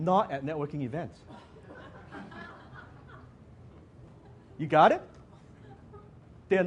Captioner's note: audience laughs